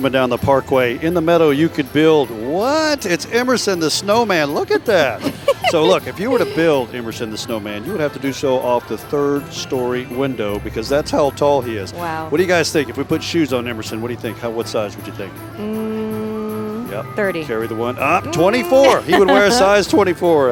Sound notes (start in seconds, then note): 6.6 laughing